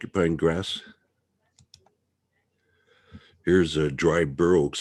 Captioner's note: mouse clicking